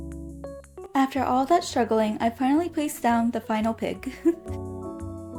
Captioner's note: chuckles